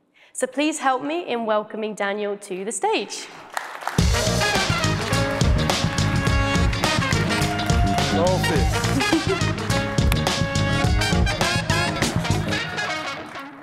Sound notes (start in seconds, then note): 3.4 audience applauding; 4.0 upbeat music